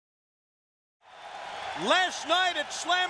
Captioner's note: crowd cheering